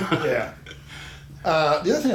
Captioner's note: laughing